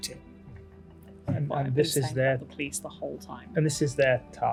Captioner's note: mutters